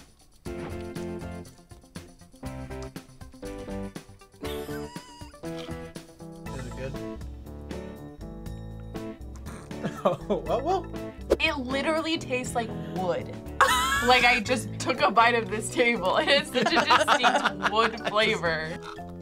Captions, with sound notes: (React laughs) - Is it good? (laughs) Oh, well? - It literally tastes like wood. (React laughs) Like I just took a bite of this table. It has such a distinct wood flavor.